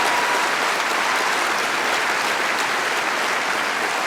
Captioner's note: applause